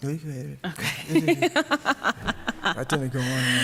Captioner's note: laughs